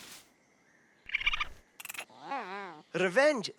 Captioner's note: rodents chattering